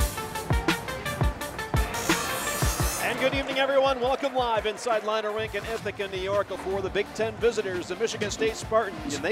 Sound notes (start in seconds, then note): 1.8 metal grinding